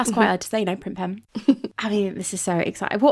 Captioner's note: laughing